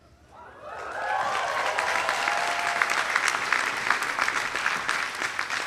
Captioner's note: audience applauding